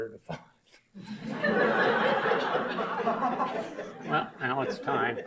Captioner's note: audience laughs